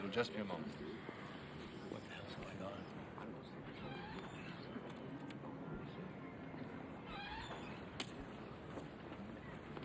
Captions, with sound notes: It'll just be a moment. - What the hell is going on? (door squeaks) (people chattering)